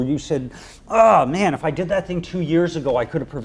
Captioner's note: groans